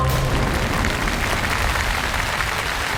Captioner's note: applaud